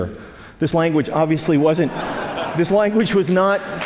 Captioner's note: laugh